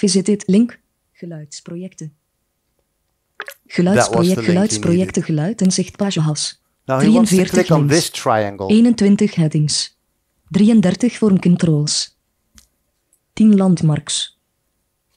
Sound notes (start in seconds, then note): 1.2 speaks in foreign language; 8.9 computer speaks in foreign language